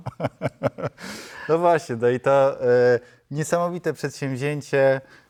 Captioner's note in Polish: śmiech